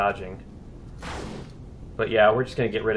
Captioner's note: firing continues